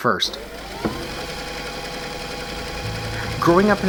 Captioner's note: video tape rewinding